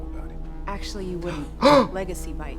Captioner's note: Trixie gasps